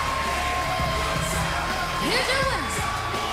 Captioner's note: bell ringing